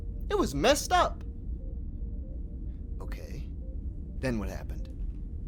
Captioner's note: none